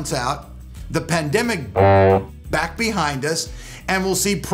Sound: honks

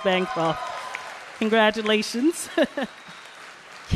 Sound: applause

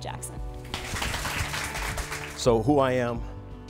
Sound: audience clapping

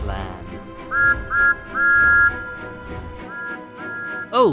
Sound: whistles

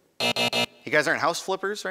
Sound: buzz

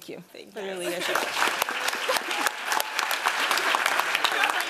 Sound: applause

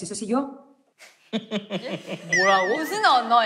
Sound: laughing

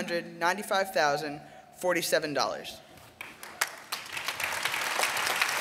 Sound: applause

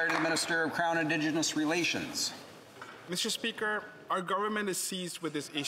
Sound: applause

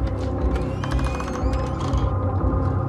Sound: door creaking

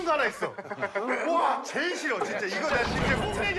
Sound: laughing, I feel like I know it

